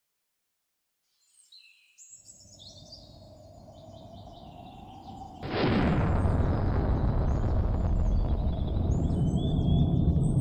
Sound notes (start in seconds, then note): 1.0 air whooshing; 1.3 birds chirping